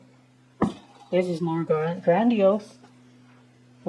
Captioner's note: thud